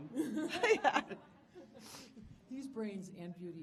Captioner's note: panelists laughing